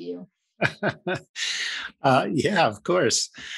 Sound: laughs

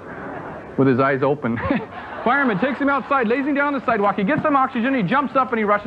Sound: laughs

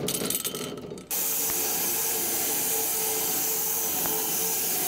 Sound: saw blade humming

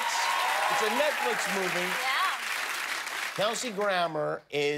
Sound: cheers and applause

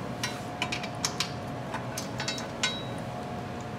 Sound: tools clattering

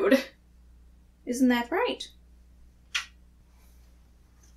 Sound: kiss

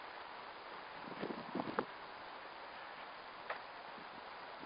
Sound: wind rustling

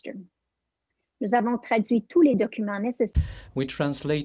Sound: French

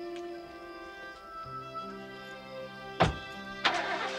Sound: car engine revving

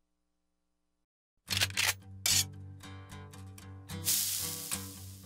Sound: gun cocking; sizzling

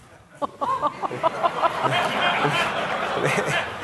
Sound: audience laughing

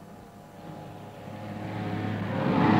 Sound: lorry approaching

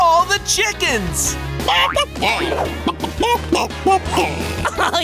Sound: clucking

